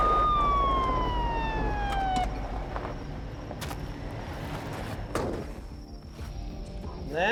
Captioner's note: sirens wail; door opens, closes